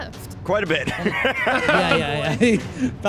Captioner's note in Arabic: يضحك